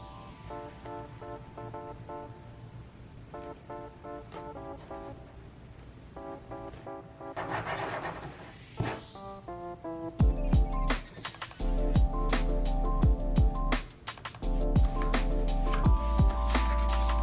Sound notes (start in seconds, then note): 7.3 pen scribbling; 10.6 bright electronic music